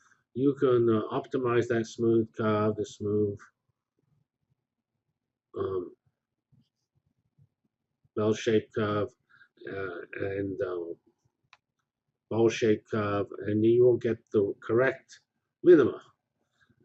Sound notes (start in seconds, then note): 3.7 pause